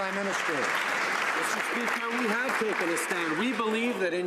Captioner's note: some Applause